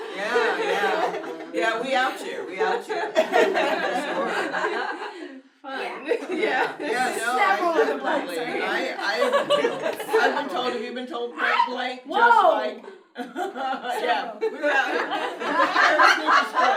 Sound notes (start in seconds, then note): 3.0 everyone laughing; 13.0 laughs; 14.5 everyone laughs